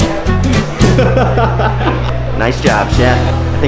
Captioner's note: male adult laughing